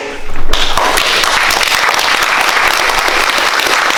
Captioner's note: students clapping